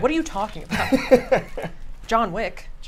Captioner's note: laughs